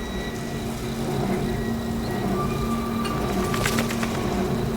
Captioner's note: wind turbine squeaking; birds feather flapping